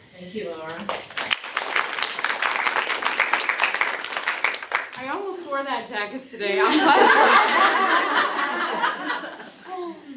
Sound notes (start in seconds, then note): 0.7 applause; 6.6 laughter